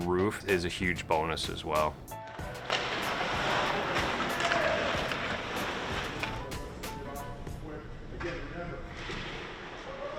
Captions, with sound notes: is a huge bonus as well. (hockey sticks hitting ice)